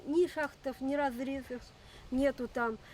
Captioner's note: speaking Russian